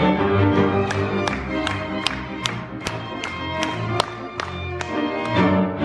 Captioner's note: audience clapping rhythmically